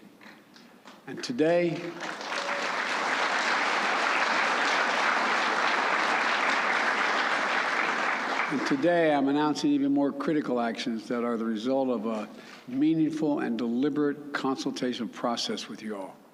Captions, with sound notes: And today -- (applause) -- and today, I'm announcing even more critical actions that are the result of a meaningful and deliberate consultation process with you all.